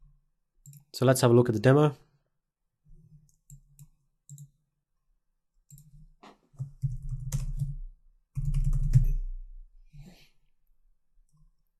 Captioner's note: silence